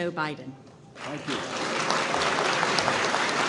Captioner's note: applause